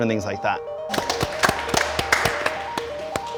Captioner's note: applause